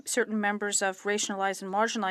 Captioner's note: speaking French